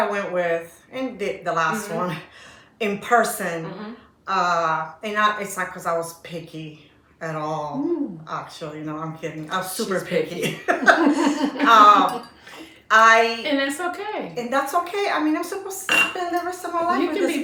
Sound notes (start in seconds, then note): 10.4 laughter